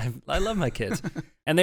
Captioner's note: laughs